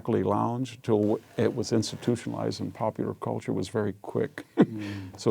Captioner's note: laugh